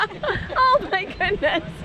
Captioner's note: laughter